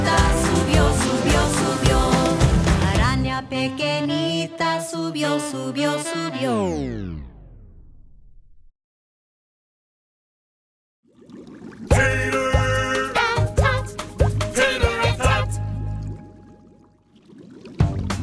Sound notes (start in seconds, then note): 11.0 bubbling; 17.8 upbeat music